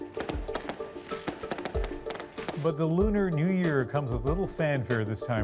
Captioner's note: fireworks